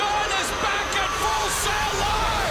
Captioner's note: crowd cheering